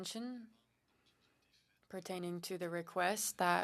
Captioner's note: speaking French